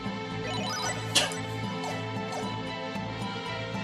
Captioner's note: laughs softly